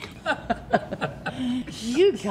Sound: all chuckling

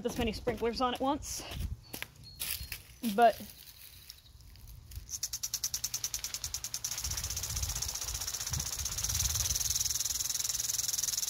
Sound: sprinkler noise

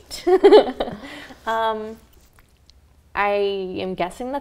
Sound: both giggle

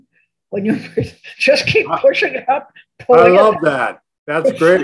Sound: laughing

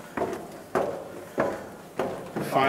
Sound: footsteps

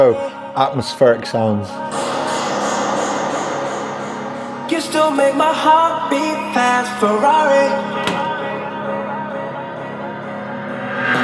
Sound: atmospheric sounds

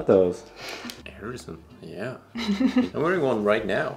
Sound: chuckles

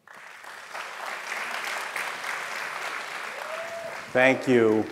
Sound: audience applauding

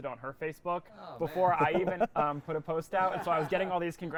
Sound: laughing

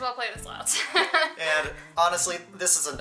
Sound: laughs

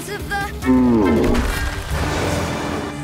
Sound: growling

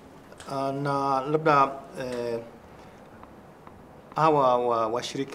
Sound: speaking in swahili

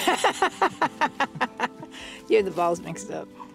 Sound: woman laughs

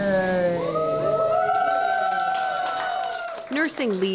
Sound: applauding

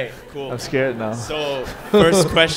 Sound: audience laughing

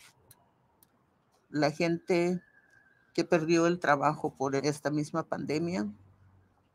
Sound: speaking in foreign language

